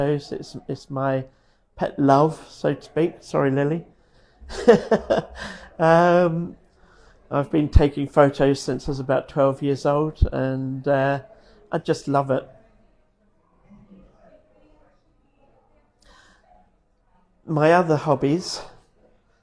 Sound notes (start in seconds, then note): 4.4 laughs